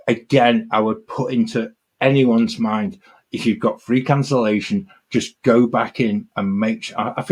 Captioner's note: none